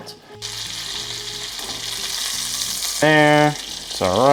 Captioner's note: pan sizzling